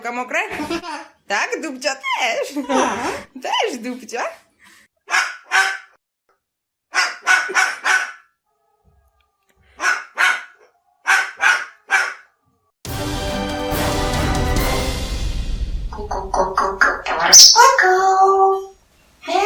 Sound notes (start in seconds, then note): 5.2 Tomy's barking like a dog